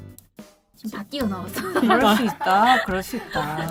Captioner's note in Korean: 웃음